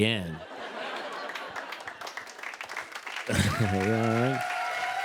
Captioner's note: laughter, applause